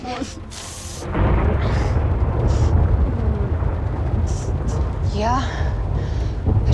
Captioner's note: thunderclap